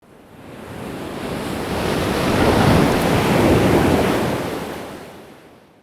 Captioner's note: waves crashing